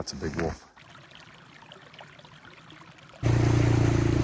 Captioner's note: water rippling; engine roaring